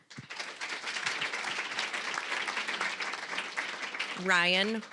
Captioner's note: applause